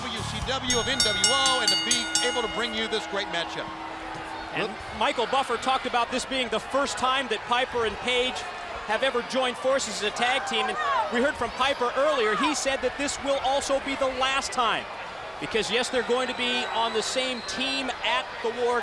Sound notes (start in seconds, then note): 3.6 bell ringing